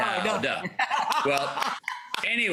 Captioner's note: laughing and clapping